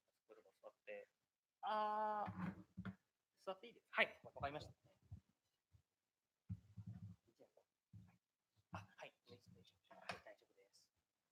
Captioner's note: speaking japanese